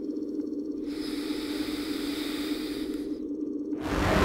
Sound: long sniff; dramatic horror music

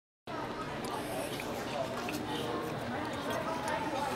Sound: restaurant noise

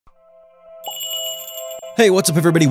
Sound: magical jingle

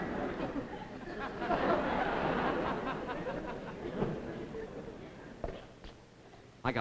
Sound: audience laughs; audience laughs, over ocean

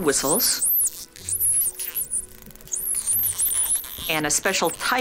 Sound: dolphin whistling

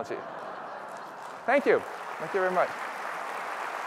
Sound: laughter; applause

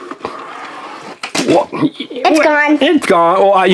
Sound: truck clatters on floor

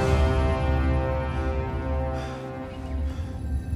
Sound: panting

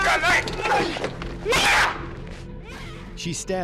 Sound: screaming

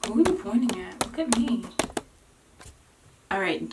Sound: tapping

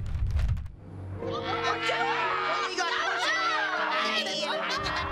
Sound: screaming

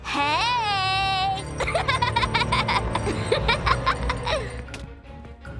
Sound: evil laugh

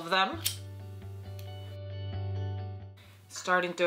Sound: lighter clicks

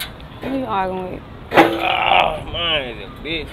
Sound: ahhh

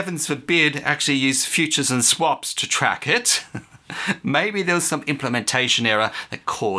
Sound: chuckle

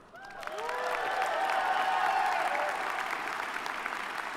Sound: audience applauding

